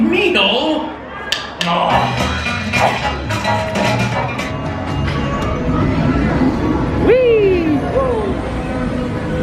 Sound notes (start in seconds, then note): 1.6 upbeat music; 2.2 rat sighs